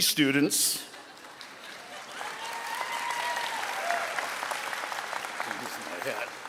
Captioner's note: audience applauding and cheering